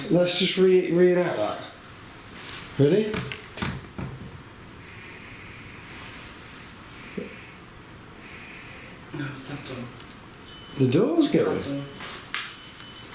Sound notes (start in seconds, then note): 4.9 door creaks; 10.4 device beeps